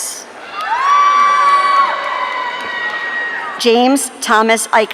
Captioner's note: audience cheering